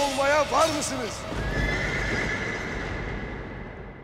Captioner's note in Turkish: At kişneme sesi